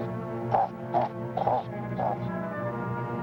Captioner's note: grunting